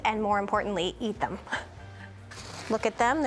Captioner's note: chuckling